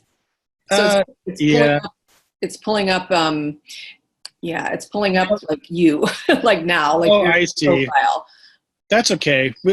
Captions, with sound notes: Yeah. It's pulling up… Yeah, it's pulling up, like you (laughs), like now… Oh, I see. Jowett …like your profile. That's okay.